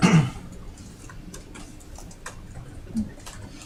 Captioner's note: keyboard clacking